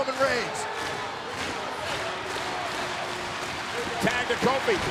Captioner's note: audience claps rhythmically